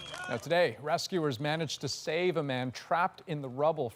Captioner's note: applause